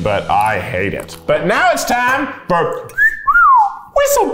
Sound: whistles

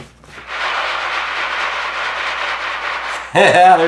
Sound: rustling

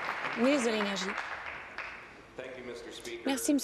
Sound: applause

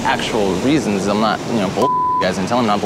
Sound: audio beeps

